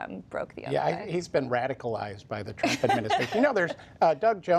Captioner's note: laughter